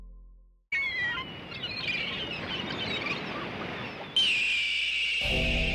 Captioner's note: seagulls calling; eagle screeching